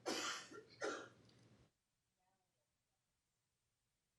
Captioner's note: coughing